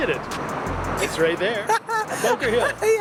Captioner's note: laughs